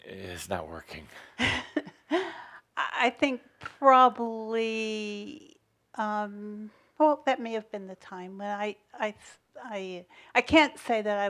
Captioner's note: chuckles